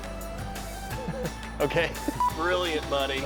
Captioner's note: laughing